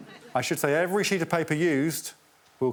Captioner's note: audience tittering